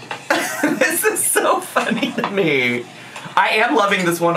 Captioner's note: laughs